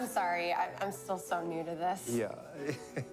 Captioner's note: laughs